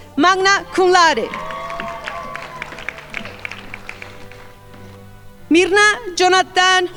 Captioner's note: crowd applauding